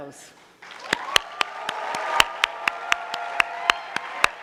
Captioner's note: audience clapping